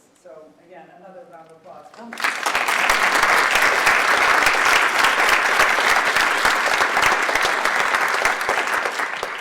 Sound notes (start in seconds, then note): 2.1 audience applauds